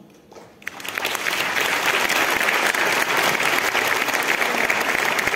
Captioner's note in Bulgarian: аплодисменти